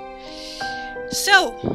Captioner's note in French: prend une inspiration